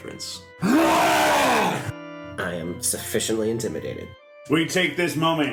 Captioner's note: long wookie roar